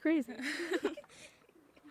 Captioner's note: laughing